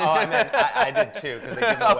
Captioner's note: laughs